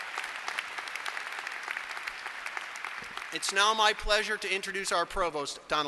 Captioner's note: applause